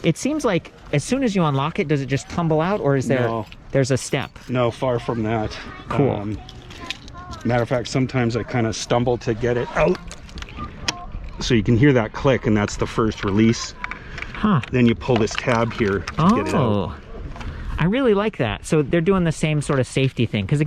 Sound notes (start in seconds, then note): 11.4 click